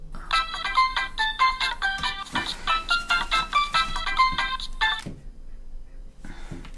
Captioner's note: mobile phone ringing